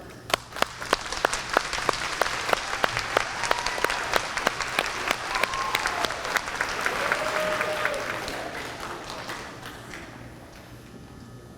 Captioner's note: applause